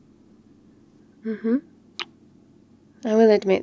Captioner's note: kiss